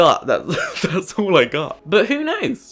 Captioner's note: laughs